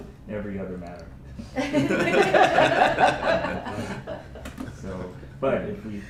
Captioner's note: laughter